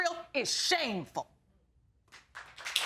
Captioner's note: audience applauds